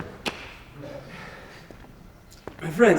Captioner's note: takes deep a breath